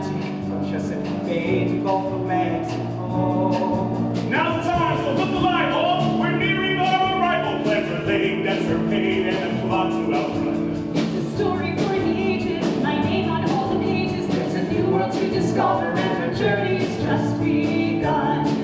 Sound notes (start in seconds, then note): 4.3 shouted